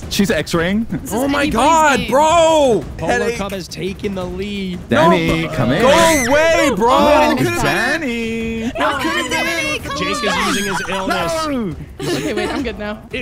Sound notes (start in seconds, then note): 5.8 screaming